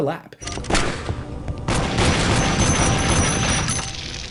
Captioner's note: guns firing